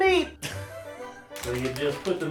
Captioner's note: laughs